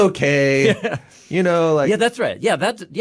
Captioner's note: laughs